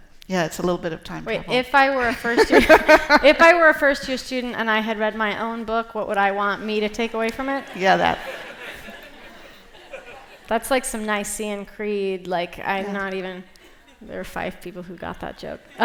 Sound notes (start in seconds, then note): 7.3 laughter